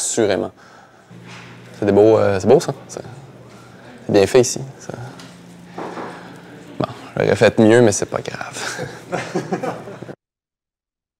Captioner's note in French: rires